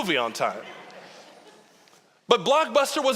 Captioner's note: audience laughing